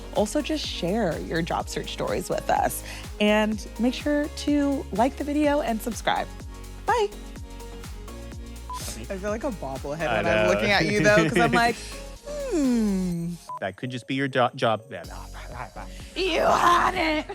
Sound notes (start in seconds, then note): 10.8 laughs